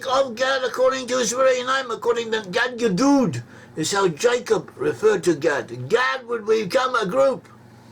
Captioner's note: in Hebrew